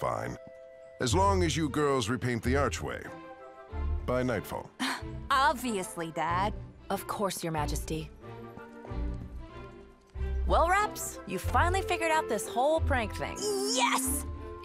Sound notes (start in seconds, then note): 6.0 laughs